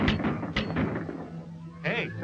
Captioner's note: guns firing